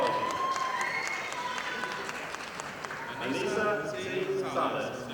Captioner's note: audience applauding